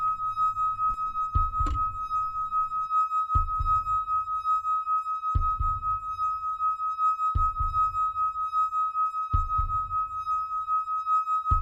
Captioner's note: heart beat